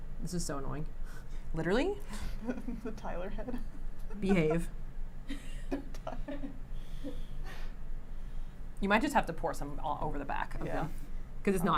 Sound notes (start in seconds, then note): 3.1 chuckles